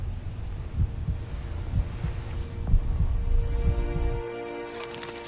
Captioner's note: heartbeat effect